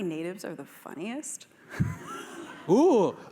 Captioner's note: laughter